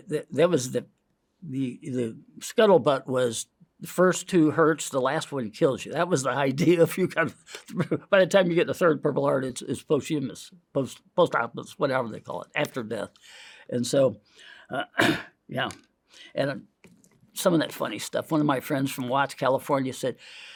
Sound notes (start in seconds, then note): 6.8 laughs; 14.8 clears throat